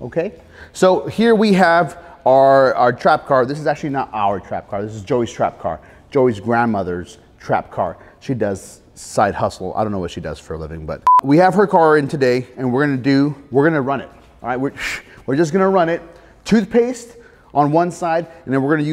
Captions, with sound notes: Okay, so, here we have our trap car. This is actually not our trap car. This is Joey's trap car, Joey's grandmother's trap car. She does side hustle, I don't know what she does for a living but-- (beep) We have her car in today. And we're going to do-- We're going to run it. All right, (scoff) We're just going to run it. Toothpaste on one side and we're going to use